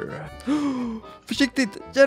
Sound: gasp

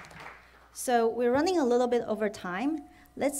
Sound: applause

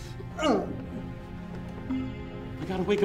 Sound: groans

